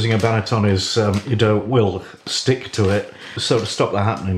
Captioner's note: none